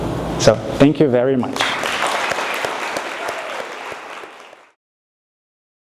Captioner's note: audience applauding